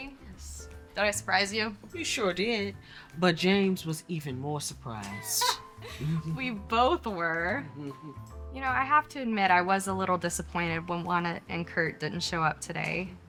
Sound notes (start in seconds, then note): 5.9 laughs; 7.8 Colleen chuckles